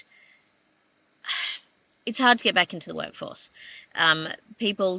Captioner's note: exhales